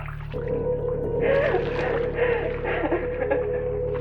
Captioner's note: water pouring